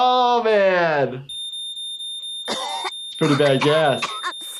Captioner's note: alarm beeps